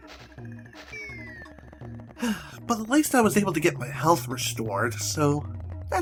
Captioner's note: sigh